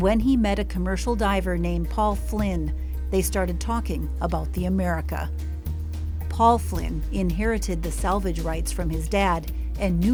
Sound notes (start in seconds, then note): none